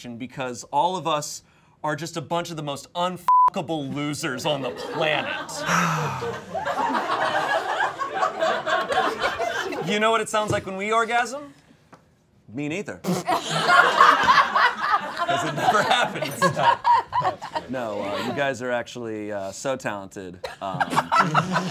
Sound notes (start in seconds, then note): 6.5 all laughing; 13.2 all laughing